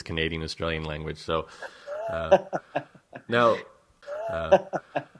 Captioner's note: laughs